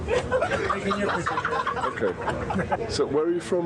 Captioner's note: passengers laughing